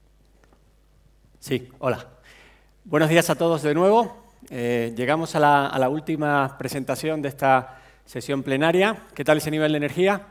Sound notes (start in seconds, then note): 2.9 speaking spanish